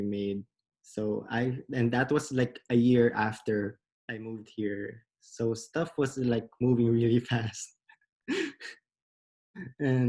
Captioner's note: laughs